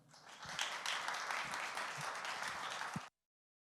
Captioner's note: audience applauding